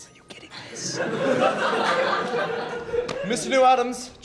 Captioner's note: students laughing